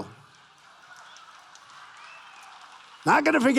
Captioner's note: applause